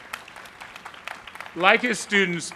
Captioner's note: applause